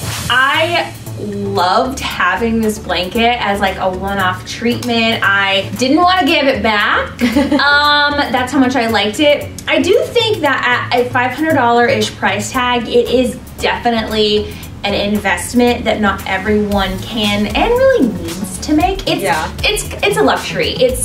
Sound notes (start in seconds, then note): 7.1 laughs